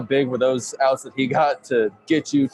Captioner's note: chuckling